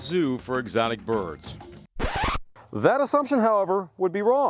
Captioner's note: record Scratching Noise